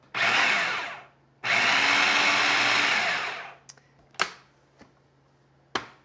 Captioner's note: food processor whirs